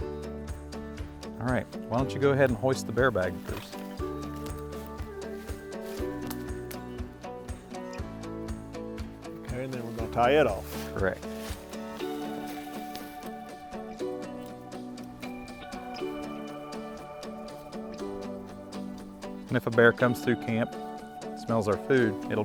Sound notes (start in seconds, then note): 4.7 metal creaking; 6.2 ropes rustling; 6.2 upbeat music; 16.1 upbeat music